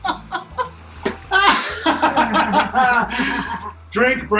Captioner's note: laughter